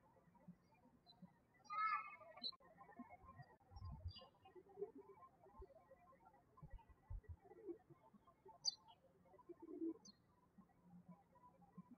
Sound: birds chirping

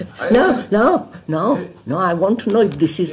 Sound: laughs

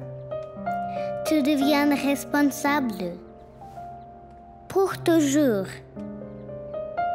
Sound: speaking french

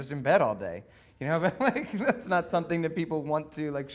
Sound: laughing

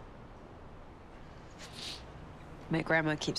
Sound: sniffles

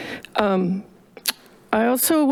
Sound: clicks tongue

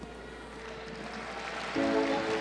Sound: spectators clapping; upbeat music

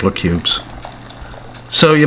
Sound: pouring water

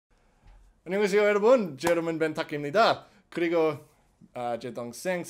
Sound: speaks Korean

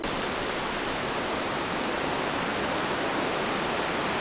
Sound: wind blowing

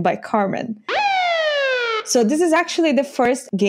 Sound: siren wailing

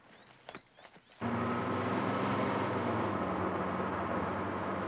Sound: car engine roaring

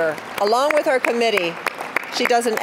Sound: applause

